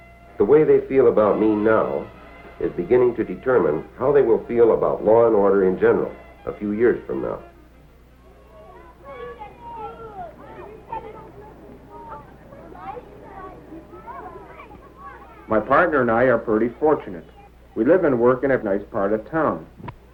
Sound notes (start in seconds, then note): 8.3 sounds of children talking and playing